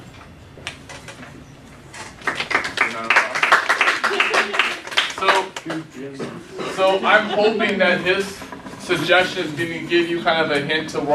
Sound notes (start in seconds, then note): 2.2 clapping